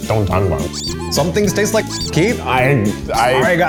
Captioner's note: squeak